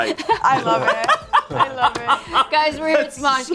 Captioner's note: group laughs